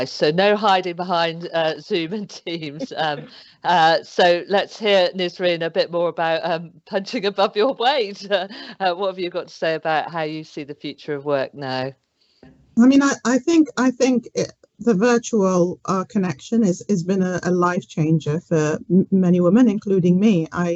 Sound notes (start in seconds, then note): 2.8 all laughing